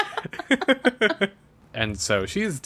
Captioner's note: laughs